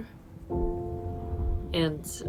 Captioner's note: rowing machine whirring